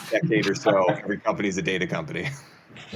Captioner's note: chuckles